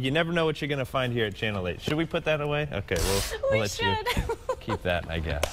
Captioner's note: laughter